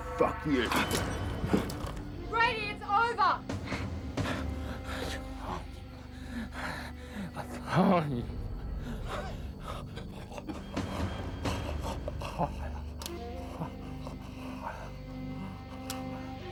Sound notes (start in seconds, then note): 1.3 dramatic music; 4.4 gangster murmurs; 10.8 dramatic music